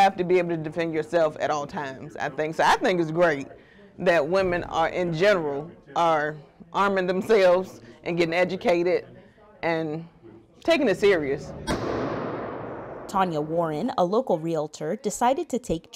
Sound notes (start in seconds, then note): 11.6 gun firing